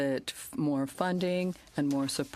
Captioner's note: speaking French